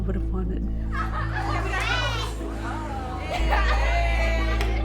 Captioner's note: laughing